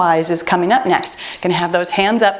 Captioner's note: timer beeping